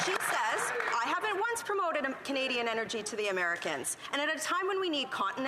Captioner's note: some Applause